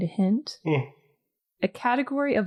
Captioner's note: yawny "yes."